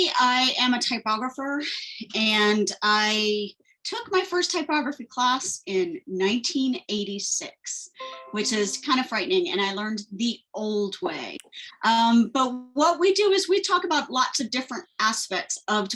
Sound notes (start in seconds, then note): 8.0 windows chime